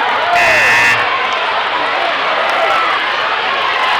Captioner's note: buzzing